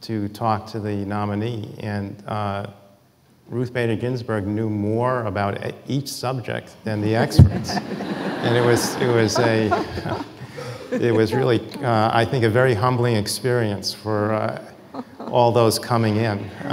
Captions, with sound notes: to talk to the nominee. And Ruth Bader Ginsburg knew more about each subject than the experts. (audience laughing) And it was really, I think a humbling experience for all those coming in.